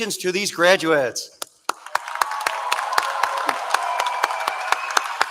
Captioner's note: cheering